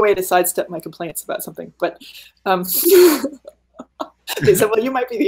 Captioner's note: laughing